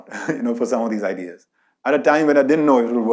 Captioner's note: laughs